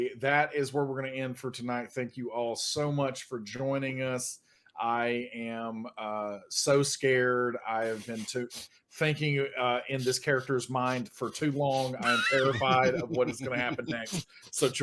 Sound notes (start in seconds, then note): 11.6 laughs